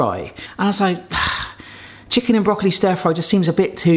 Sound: sighs

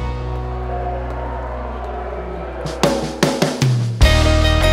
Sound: crowd cheering; lilting country music

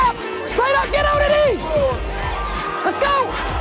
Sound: yelling

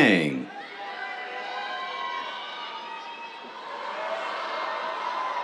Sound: cheers

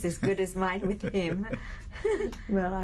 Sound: laughs

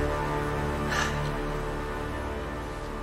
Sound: sighs

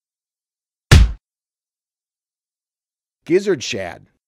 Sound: punch Sound

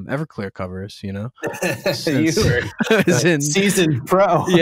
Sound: laughter

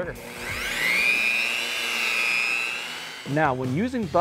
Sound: rotary tool engine hums

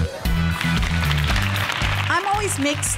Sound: girls clapping

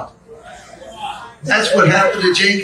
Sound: congregation amens

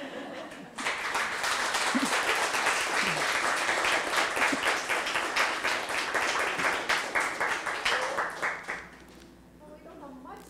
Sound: applause

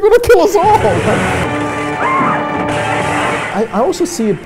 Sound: screams

